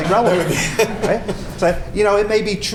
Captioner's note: laughter